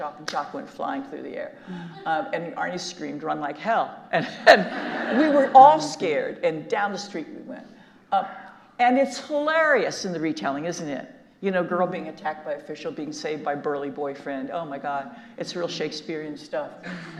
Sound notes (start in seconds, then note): 4.5 audience laughing; 4.5 laughs